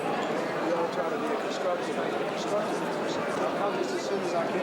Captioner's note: crowd noises